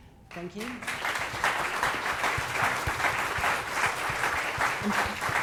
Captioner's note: audience applauds